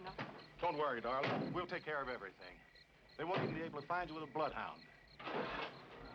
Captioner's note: engine starts